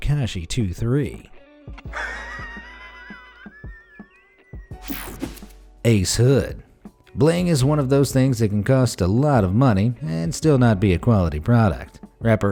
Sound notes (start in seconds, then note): 1.9 laughing